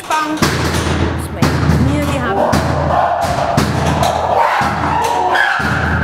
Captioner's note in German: wilde Affengeräusche